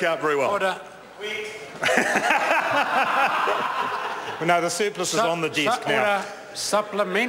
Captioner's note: members laugh